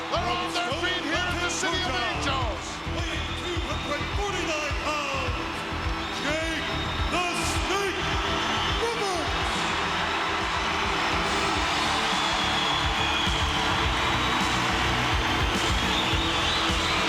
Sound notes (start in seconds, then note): 9.6 crowd cheering; 9.6 upbeat music continues